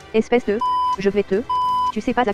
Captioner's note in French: bip